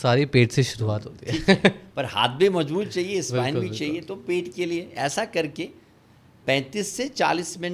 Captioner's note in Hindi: हंसी